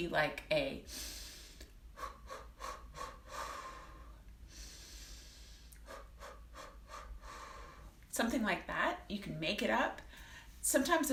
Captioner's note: small breaths in and out